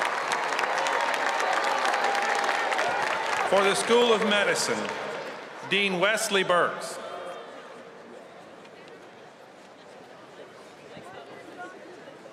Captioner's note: cheers and applause